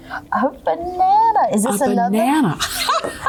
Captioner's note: laughter